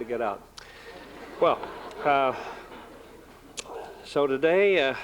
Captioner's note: laughter